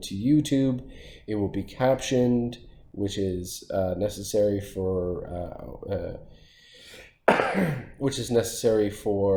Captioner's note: coughing